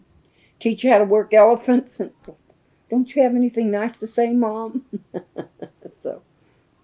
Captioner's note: laughs